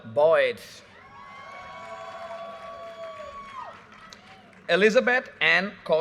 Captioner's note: audience cheers and applause